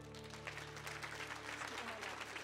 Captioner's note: audience clapping